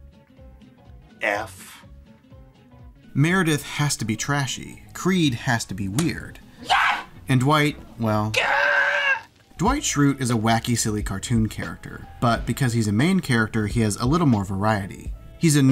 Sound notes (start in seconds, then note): 6.6 screams; 8.3 karate yell